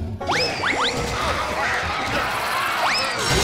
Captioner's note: buzz saw grinding; crashing